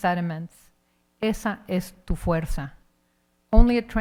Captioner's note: speaking in Spanish